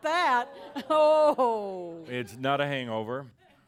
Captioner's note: audience says “Ohh!”